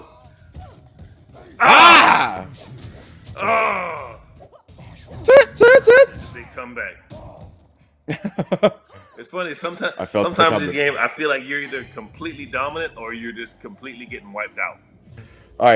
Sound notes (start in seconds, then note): 7.9 laugh